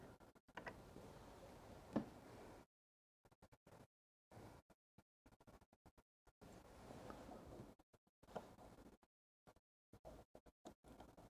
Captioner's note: silence